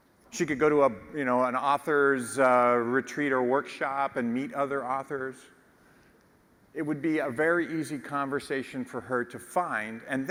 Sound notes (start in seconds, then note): none